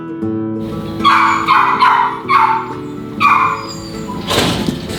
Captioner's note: dog barking